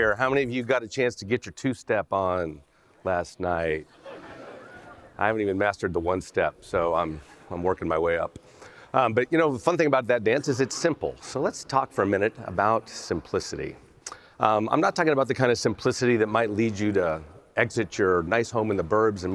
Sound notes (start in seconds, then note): 3.8 audience laughs